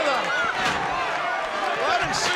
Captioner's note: chair thuds